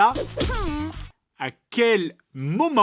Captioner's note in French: gémissement